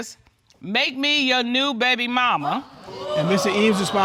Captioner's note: reading